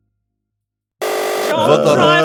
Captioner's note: buzzer